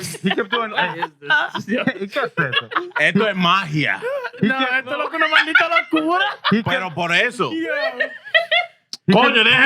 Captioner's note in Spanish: Riendo; Hablando en idioma extranjero